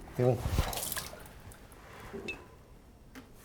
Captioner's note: spills